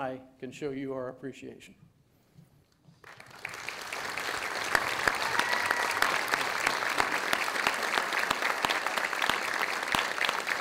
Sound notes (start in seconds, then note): 3.0 audience applauding